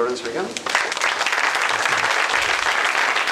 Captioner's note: applause